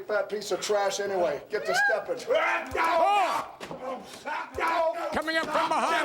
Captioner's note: Mankind yelling